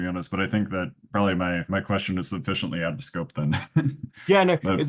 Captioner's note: laughs